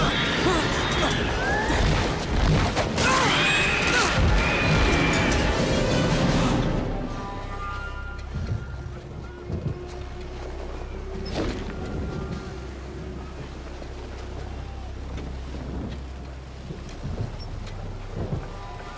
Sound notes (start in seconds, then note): 1.1 creatures screeching; 1.1 men groaning; 8.3 eerie music; 15.9 thunder rumbling